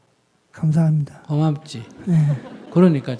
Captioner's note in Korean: 청중 웃음